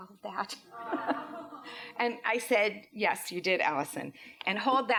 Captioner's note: laughs